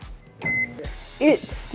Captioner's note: microwave beeping